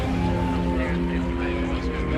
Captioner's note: siren wailing